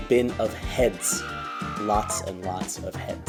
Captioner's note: woman screaming